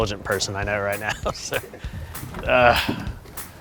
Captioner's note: laughs